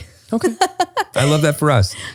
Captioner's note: laughs